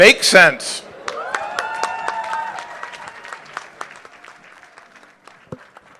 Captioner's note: applause